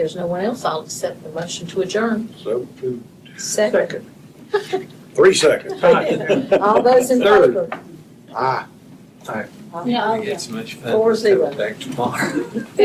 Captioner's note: laughter